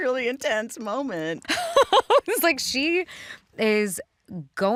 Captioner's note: laughs